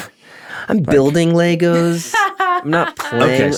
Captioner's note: laughs